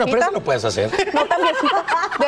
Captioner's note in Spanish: risas